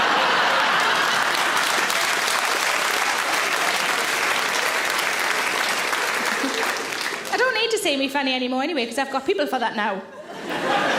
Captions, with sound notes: (audience laughs) (audience claps) I don't need to see me fanny anymore anyway, because I've got people for that now.